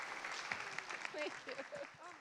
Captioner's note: applause